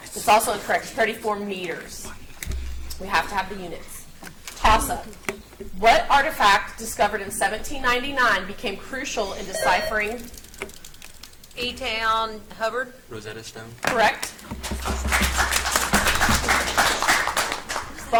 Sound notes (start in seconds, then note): 9.1 buzzer beeps; 14.6 audience applauds